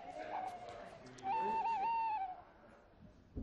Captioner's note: owls hoot